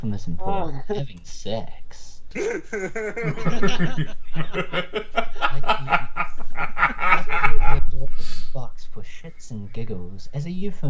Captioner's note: laughing